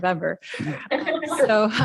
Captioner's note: laugh